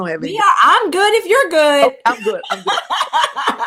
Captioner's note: laughter